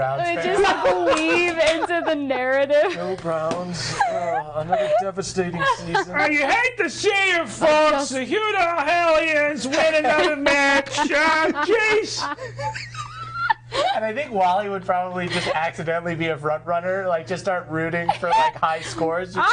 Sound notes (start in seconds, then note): 4.1 laughing; 12.3 others laughing